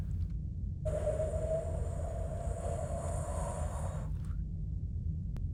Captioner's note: imitates the white noise